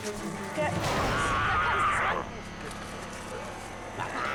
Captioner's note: Sabika snarls